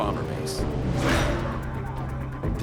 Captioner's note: engine roaring